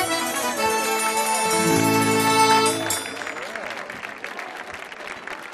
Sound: audience applauding

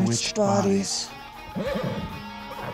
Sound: whinnying

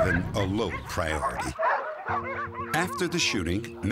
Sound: dogs barking

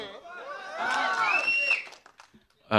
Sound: crowd cheering

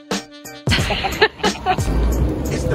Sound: laughing

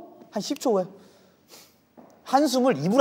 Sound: hmm

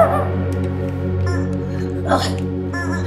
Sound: dog barking; honking; dog barking

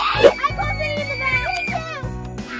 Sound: screaming

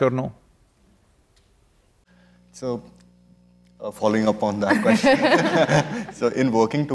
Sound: laughter

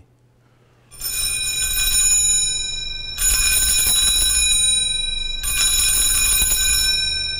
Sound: bells ringing

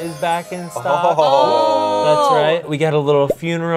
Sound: group exclaiming

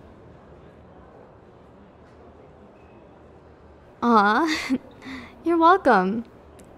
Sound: soft laugh

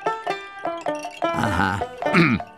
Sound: clearing throat

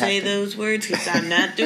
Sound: laughs

